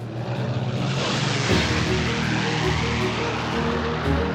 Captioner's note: aircraft engine roars